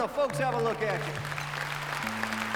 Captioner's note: audience applauding; tuning strings